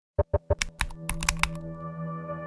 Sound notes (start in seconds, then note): 0.3 ident clicks